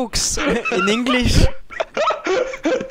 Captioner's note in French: rire